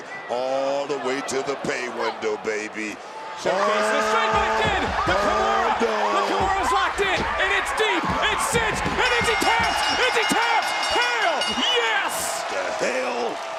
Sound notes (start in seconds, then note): 11.6 bell rings